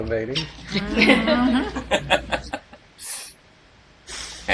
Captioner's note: laughing